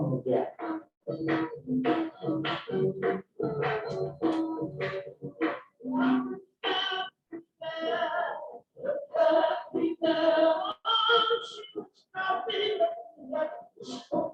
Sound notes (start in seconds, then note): 4.9 non-english speech; 4.9 singing